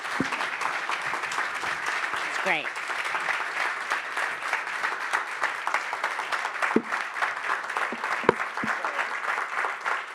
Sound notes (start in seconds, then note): 0.1 audience applauding